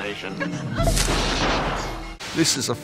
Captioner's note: electricity pops